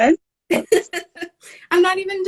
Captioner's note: laughing